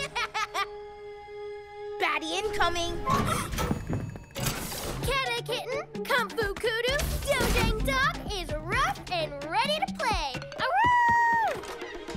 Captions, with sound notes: (Evil laugh) Baddie incoming! (Gasps) Kata Kitten! Kung Fu Kudu! Dojang Dog is "ruff" and ready to play! Aroo!